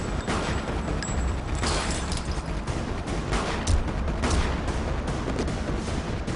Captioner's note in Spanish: Disparos